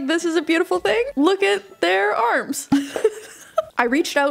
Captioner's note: laughing